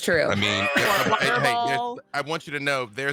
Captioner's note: group chattering; wheezes